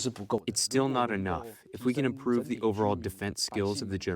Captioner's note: through translator